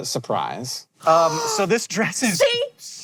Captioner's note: gasps